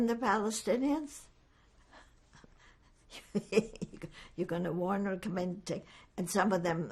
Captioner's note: laughing